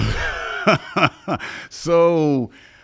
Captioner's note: laughing